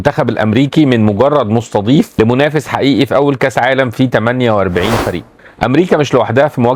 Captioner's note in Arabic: أصوات شخير